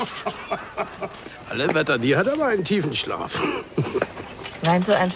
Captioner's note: lacht; laughs